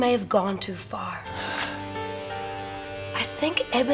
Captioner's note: sighs